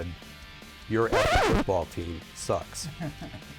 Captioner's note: disc scratching